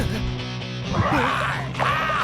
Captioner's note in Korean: 포효하는 소리